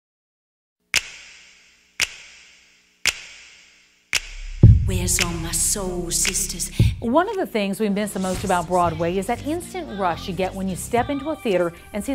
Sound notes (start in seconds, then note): 0.9 snapping